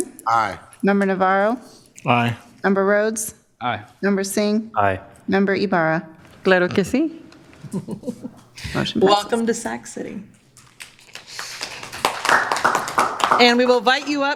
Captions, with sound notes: MEMBER BENJAMIN, AYE, MEMBER NAVARRO, AYE, MEMBER RHODES, AYE, MEMBER SINGH, AYE, MEMBER YBARRA, [SPEAKING IN SPANISH] WELCOME TO SAC CITY.